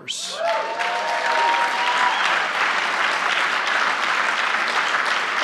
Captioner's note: applause